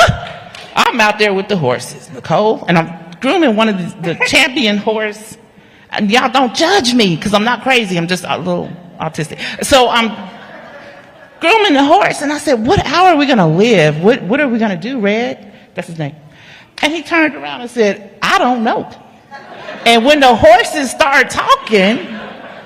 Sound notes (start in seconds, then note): 2.4 laughter; 6.3 laughter; 14.9 laughter